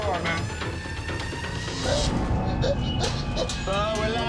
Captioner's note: gasping